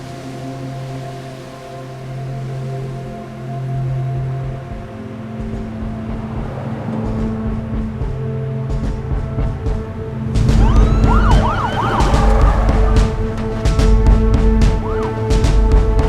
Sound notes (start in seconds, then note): 0.1 quiet soft music; 5.8 traffic humming; 10.5 sirens blaring; 12.9 cars skidding halt; 13.9 dramatic music; 13.9 sirens blaring; 15.8 dramatic music